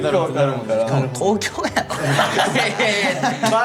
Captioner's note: laughs